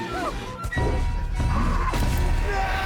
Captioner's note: roars; screams